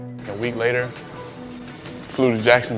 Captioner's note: plane engine roars